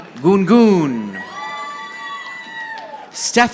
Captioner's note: audience applauding